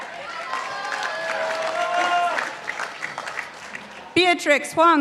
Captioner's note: participants applauding